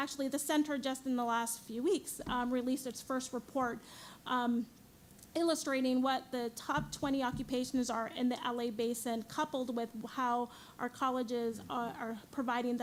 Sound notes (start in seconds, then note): none